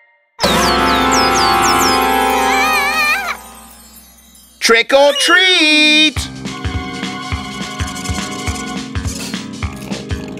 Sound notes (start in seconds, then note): 0.1 all scream at the same time; 2.6 Nina screams frighteningly